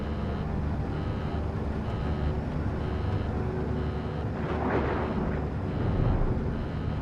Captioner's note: dramatic music; beeping